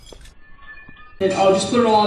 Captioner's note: slow mo judging sounds